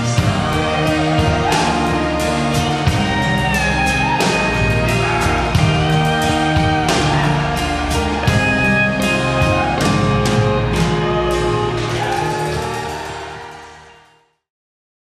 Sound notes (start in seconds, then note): 1.1 audience cheers; 1.1 gentle instrumental music